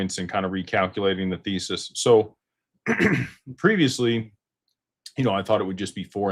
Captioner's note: clears throat and cough